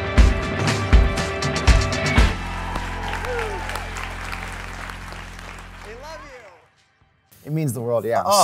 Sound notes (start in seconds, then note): 2.1 audience cheering and applauding